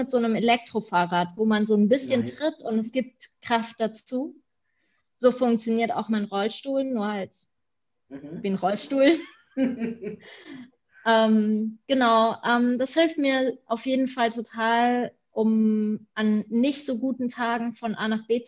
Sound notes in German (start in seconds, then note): 9.5 beide lachen